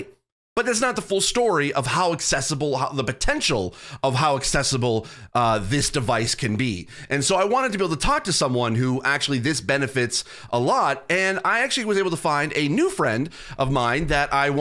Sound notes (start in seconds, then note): none